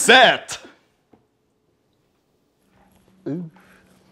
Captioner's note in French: Silence glacial